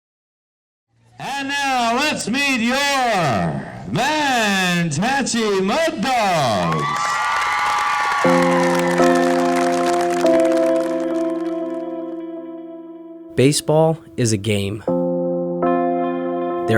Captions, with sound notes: - [Voiceover] And now, let's meet your Men's Mantachie Muddogs! (cheers and applause) - [Voiceover] Baseball is a game